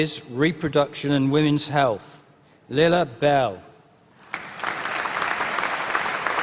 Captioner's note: applause